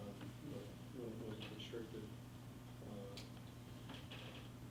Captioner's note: faintly speaking